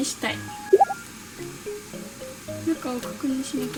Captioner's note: sound of frying